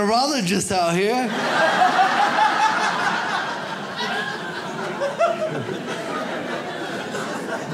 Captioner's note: audience laughs